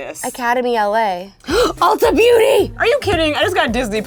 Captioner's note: gasps